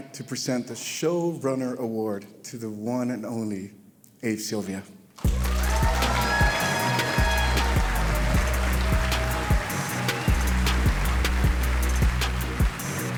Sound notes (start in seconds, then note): 5.2 audience cheering; 5.2 cheerful music